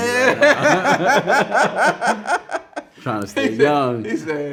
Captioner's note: both laughing